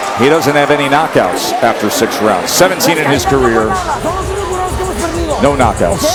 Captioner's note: bell rings